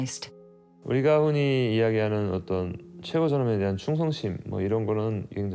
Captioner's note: speaking Korean